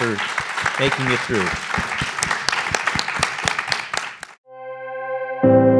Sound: applause

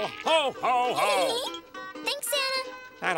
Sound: giggling

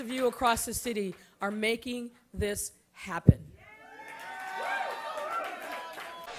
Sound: cheering and applause

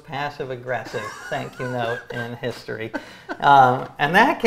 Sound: laughs

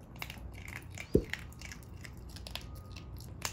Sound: crunch sound

